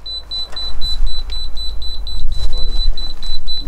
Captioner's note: beeps